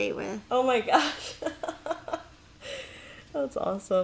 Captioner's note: laughing